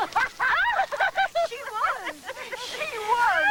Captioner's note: laughing